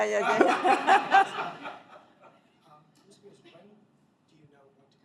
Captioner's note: laughter